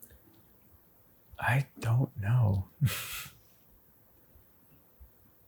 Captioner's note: chuckles